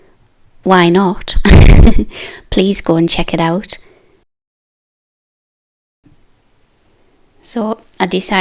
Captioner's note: snigger